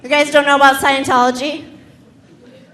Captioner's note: none